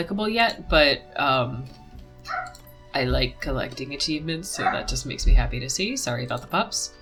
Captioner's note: dog barks again